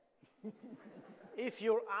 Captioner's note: audience laughing